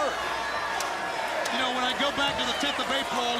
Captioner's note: crowd chattering